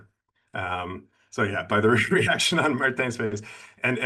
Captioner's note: laughs